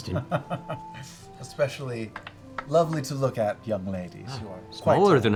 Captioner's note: chuckles